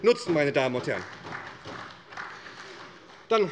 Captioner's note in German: Beifall bei der SPD